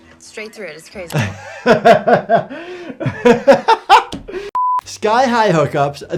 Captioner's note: laughing; screen beeping